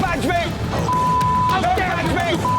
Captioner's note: beep